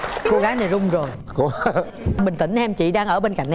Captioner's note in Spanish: risas, aplauso; risas